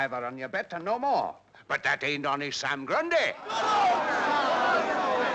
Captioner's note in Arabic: هتاف الجمهور